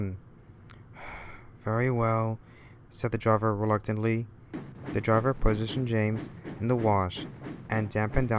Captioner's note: sigh